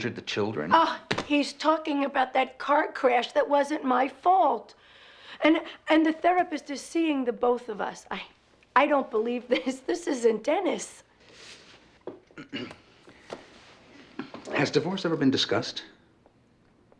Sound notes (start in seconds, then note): 12.3 clears throat